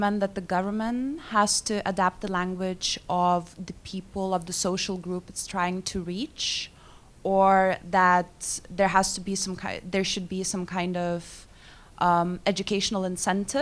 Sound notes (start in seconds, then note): none